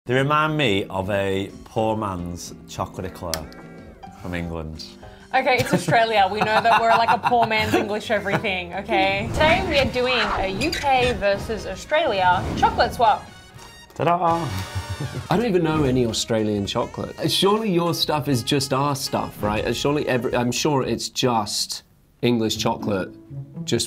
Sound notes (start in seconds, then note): 5.6 laughs; 13.4 horn music